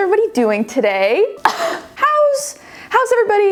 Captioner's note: cough